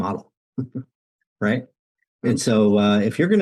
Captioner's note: laughs